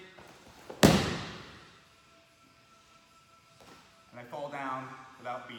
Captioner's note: hands slam floor